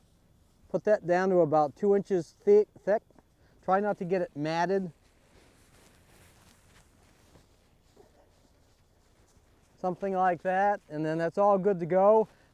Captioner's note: pause